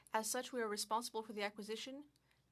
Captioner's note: speaking French